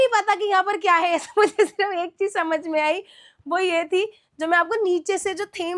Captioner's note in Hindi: हंसी